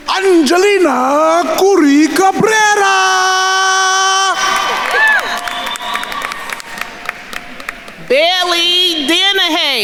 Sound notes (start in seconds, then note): 0.0 attendees cheering; 4.5 attendees cheering and applauding